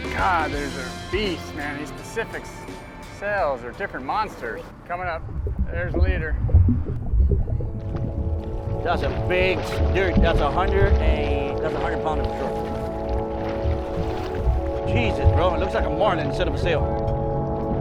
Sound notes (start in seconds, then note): 8.9 upbeat music; 9.7 murmuring